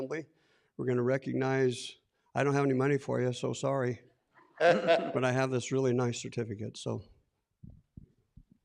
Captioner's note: laughs